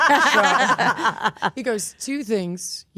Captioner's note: group laughs